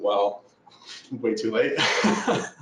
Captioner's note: laughs